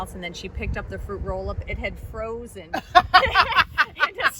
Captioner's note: both laugh